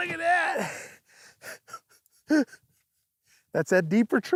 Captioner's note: laughs